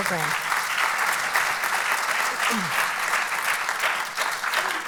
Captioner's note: applauds